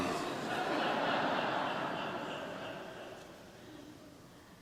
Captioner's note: congregation laughing